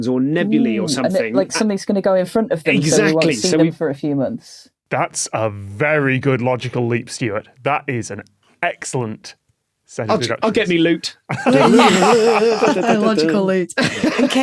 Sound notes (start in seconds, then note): 11.3 others laughing; 11.5 imitates lute